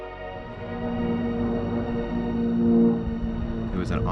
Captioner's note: sound of airplane